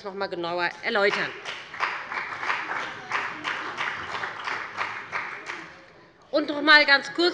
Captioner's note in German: Beifall bei dem BÜNDNIS 90/DIE GRÜNEN und der CDU